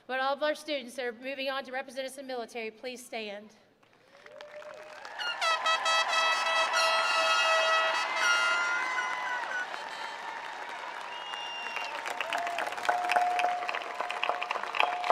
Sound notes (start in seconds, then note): 4.8 attendees applauding; 5.1 horns blowing